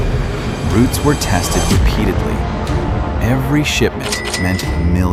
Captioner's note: camera clicking